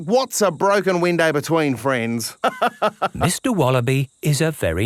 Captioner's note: laughs